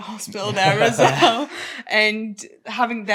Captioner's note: everyone chuckles